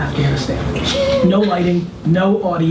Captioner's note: laughs